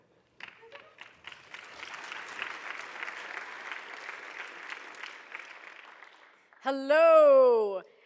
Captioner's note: applause